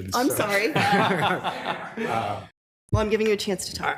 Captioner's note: people laughing